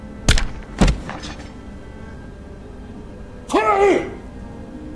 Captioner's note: hammer thuds